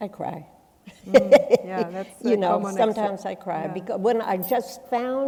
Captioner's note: chuckles